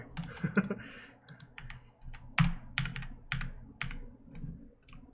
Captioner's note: laughs